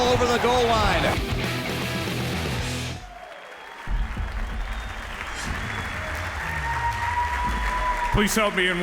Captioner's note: applause